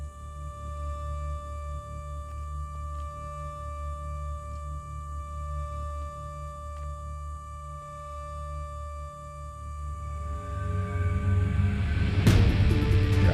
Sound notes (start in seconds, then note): 3.0 bugs chirping; 9.8 dramatic music